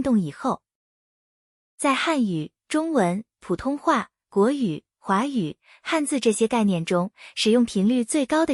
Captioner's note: 中文